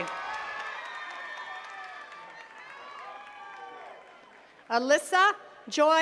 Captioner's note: attendees cheering and clapping